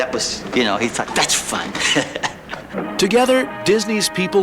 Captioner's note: laughs